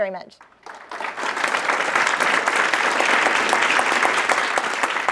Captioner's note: applause